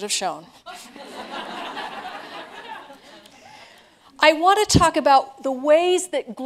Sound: laughter

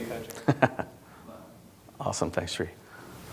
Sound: laughing

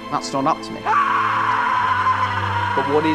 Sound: Remus screams

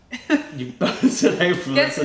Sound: laughter

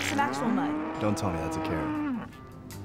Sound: mooing

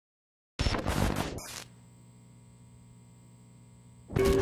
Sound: logo buzzing

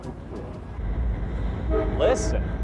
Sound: train whistle blows

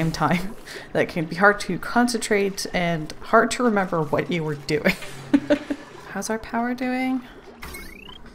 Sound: laughs

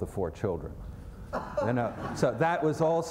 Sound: laughter

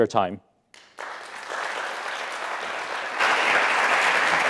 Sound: audience claps

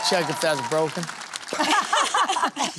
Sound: laughter

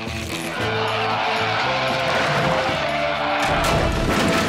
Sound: roaring

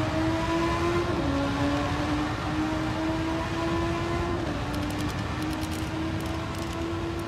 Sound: sounds of a motorcycle

